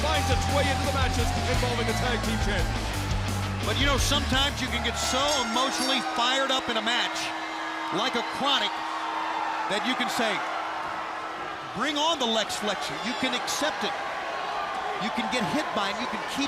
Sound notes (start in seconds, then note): 2.5 crowd cheering; 5.0 bell ringing